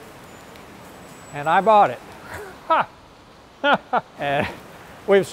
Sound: laughs

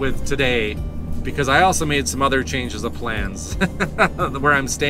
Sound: laughter

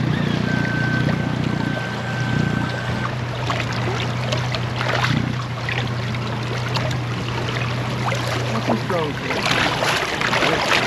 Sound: fish splashing; boat engine idling

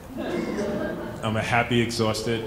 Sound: laughing

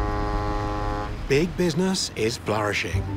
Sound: foghorn blows

